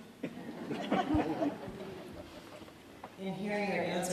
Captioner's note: audience laughs